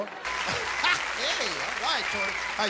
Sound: audience applauding

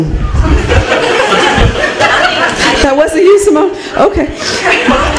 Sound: laughter

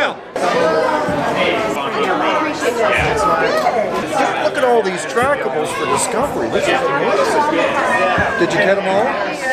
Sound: chatter

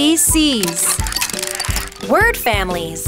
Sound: tile clicking

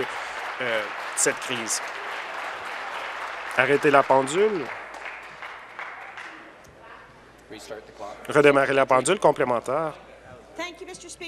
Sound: applause

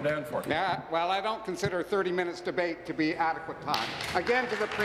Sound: applause

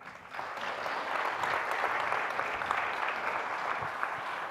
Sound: audience applauding

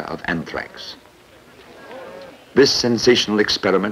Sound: indiscriminate chatter

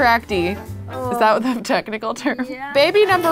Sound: laughs

